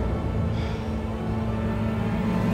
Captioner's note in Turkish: Nefes sesi